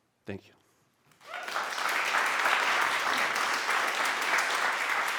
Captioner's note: applause